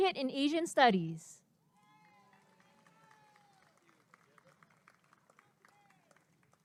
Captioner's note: applause and cheering